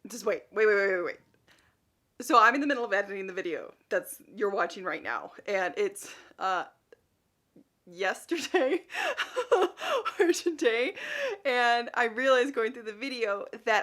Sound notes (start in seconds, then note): 8.4 laughs